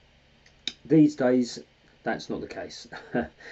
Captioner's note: chuckles